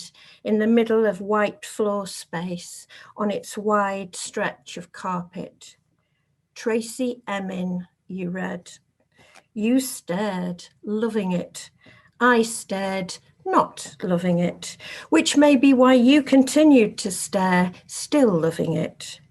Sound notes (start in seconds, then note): none